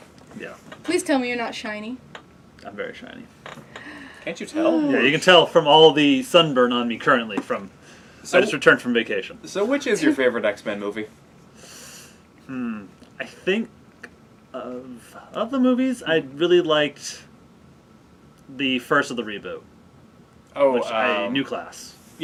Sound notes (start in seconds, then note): 3.7 sigh; 11.6 sharp intake of breath